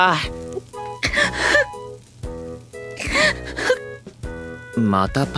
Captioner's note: sob